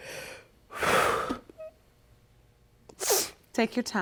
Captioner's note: sighs